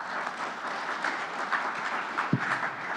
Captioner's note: whispering; applause